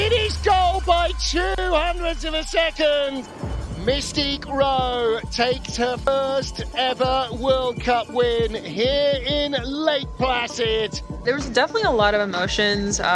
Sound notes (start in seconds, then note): 2.2 bell rattling; 2.5 crowd member cheers; 6.9 crowd member whistles; 6.9 warm synth music; 10.2 crowd cheers